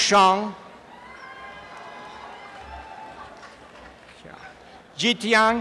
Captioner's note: applause and cheering